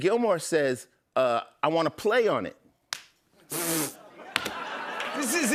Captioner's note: exhales sharply